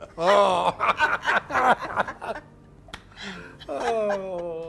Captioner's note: laughing